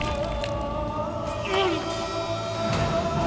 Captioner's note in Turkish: İnilti sesi